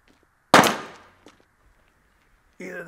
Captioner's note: gunshot popping